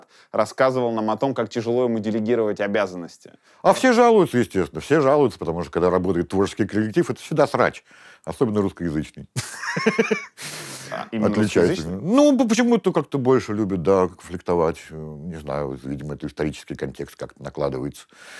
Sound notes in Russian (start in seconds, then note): 9.4 смеется